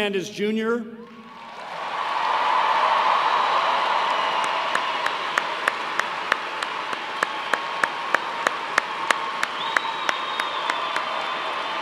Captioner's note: cheers and applause